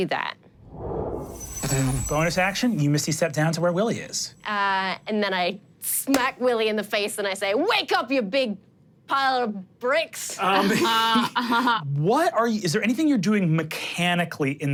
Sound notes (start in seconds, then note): 0.2 dramatic music; 10.5 laughter